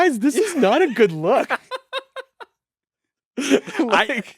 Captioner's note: both laughing